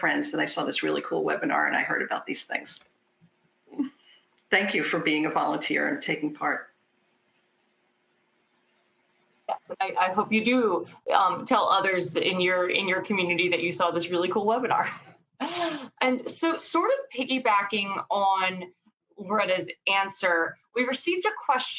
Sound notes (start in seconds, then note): 15.4 laughs